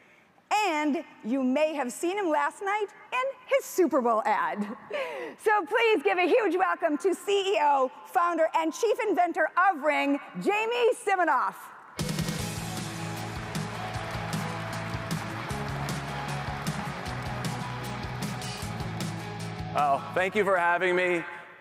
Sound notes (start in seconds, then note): 4.9 chuckles; 12.0 exciting upbeat music; 12.4 audience applauds